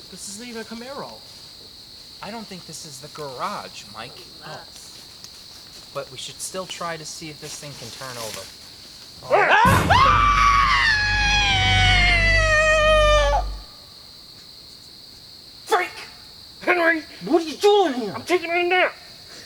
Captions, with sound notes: - This isn't even a Camaro. - I don't think this is the garage, Mike, but we should still try to see if this thing can turn over. (Henry yelling) (Mike screaming) - Frank! - Henry. - What are you doing here? - I'm taking a nap.